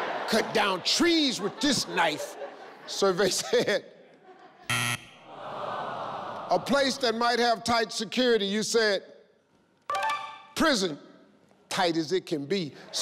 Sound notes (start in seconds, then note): 0.0 crowd laughing; 4.7 buzzing; 5.2 crowd sighs